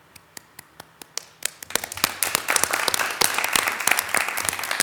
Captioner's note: attendees applauding